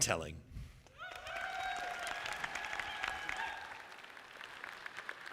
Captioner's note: audience applauding